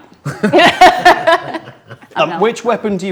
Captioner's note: group laughs